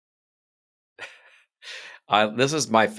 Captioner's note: laughing